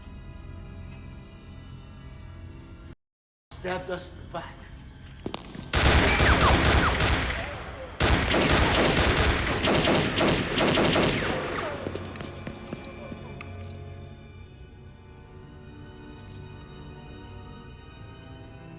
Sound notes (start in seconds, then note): 5.7 gunfire clattering; 14.7 suspenseful music continues